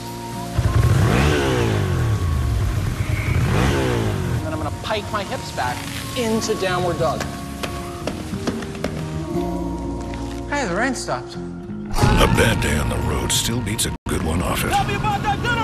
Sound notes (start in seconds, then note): 3.2 engine revving; 9.6 rhythmic tapping